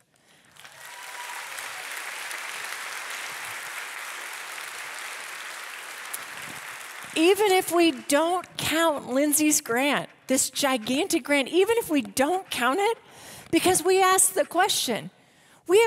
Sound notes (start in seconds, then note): 0.3 audience applauding